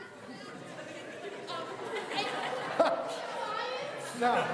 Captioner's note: audience laughing